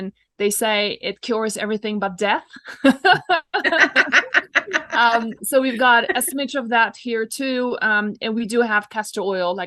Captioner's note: both laugh